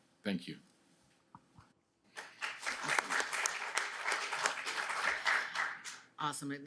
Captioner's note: applause